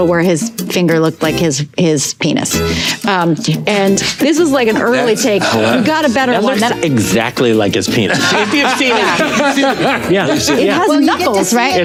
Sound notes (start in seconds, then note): 8.0 group laughing